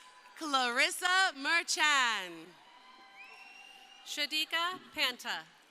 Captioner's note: crowd cheering